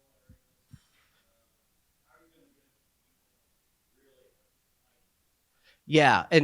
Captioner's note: speaking faintly